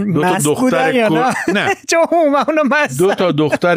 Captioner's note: laughs